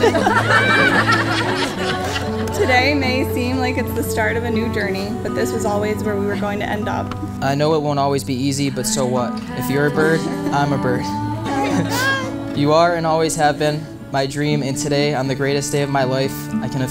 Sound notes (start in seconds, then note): 0.0 audience laughs; 11.5 laughs